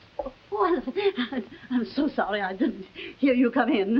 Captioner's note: stammering